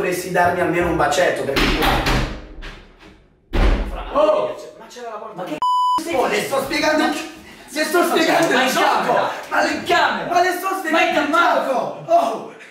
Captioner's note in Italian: bussano alla porta